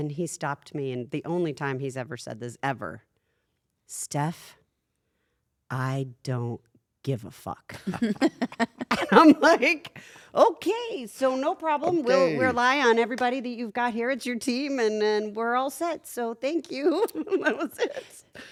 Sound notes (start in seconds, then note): 7.8 laugh